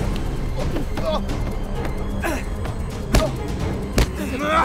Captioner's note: Irfan groans